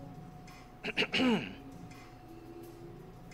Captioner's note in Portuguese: homem limpando a garganta